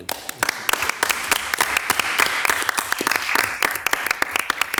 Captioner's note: audience clapping